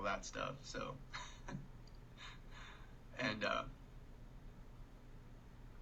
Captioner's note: chuckling